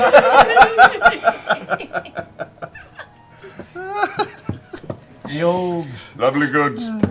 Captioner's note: laughter